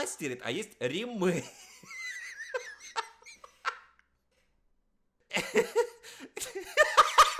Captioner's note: laugh